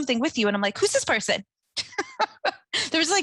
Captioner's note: chuckling